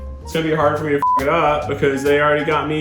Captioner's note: beep